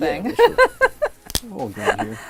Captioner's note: laughing